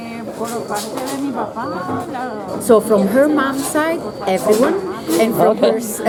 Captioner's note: laugh